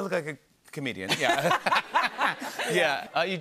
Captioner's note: laughter